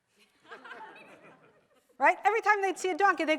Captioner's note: audience laughs